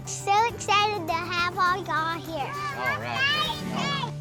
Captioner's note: shouts